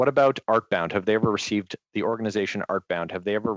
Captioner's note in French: voix de l'interprète